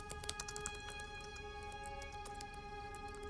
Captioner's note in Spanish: escribiendo continúa